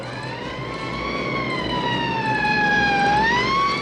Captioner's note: siren blaring